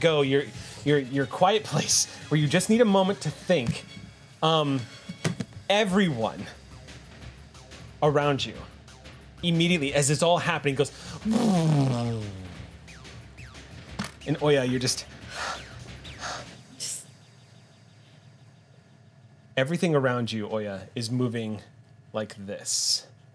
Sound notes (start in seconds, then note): 11.4 imitates electricity humming; 15.2 breathes deeply